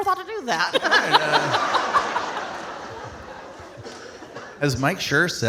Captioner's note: audience laughing